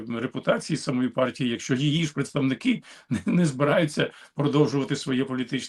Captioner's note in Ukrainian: прочищення горла